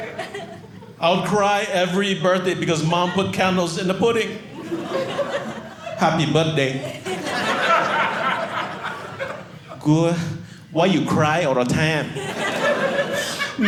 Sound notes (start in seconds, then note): 6.7 audience laughing